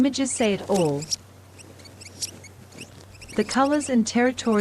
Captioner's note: birds chirping